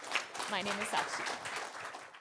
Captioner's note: applause